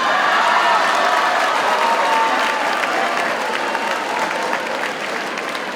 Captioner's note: audience cheers and applauds